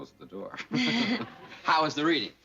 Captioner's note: laughter